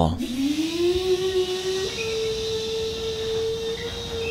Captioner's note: vacuum cleaner